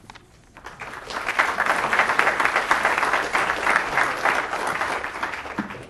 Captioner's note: applause